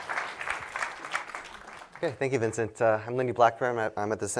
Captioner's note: applause